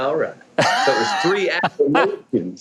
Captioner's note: Mike laughing